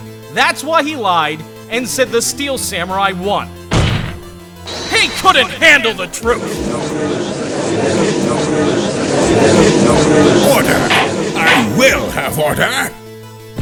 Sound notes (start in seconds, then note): 6.4 gallery chattering